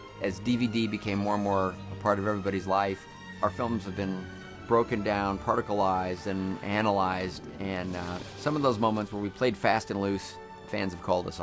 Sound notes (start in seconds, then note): none